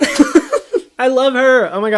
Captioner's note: laughs